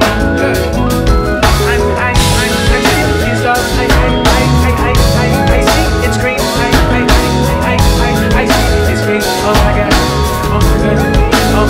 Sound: vocalizing

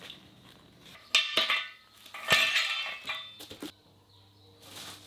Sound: metal clanking

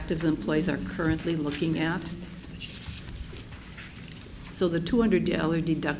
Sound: whispers

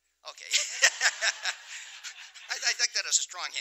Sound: laughter

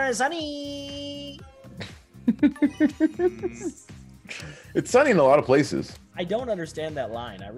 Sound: laugh

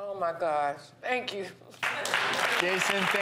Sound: applauding

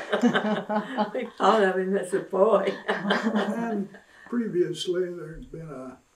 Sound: laughter

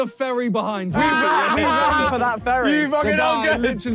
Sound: yelling

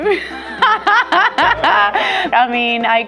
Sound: laughs

